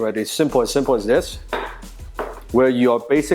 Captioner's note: bangs Wing Chun dummy